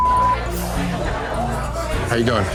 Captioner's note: beep